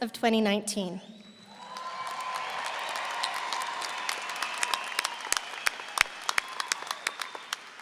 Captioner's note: audience cheering; everyone applauding